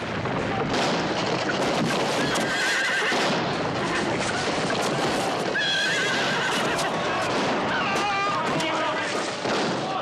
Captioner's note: sounds of horses, gunshots and crashing